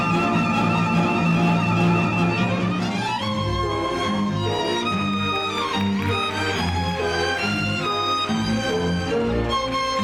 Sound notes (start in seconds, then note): 5.5 audience applauds